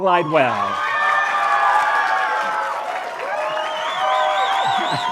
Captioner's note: cheering, applause